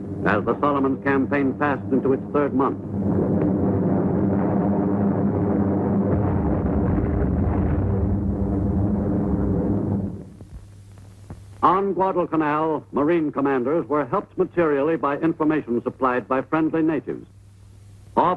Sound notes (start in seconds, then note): 4.6 airplane engine roaring